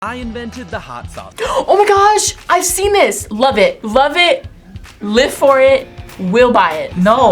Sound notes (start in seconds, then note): 1.4 gasps